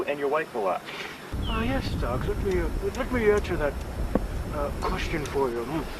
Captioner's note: mocking